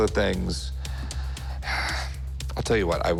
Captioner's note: sighs